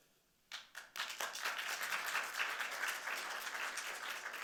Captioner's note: audience clapping